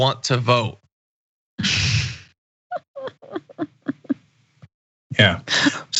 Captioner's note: laugh